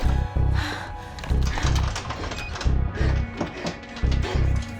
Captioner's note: lock rattling